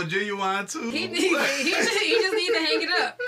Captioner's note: laughter